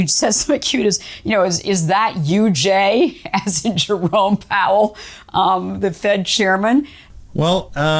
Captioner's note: laughs